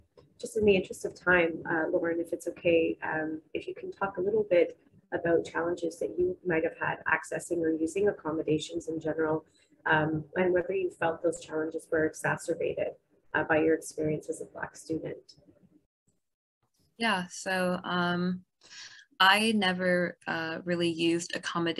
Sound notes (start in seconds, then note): none